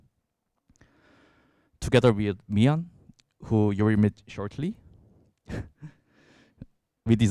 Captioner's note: chuckles